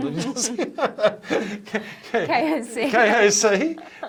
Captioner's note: both laugh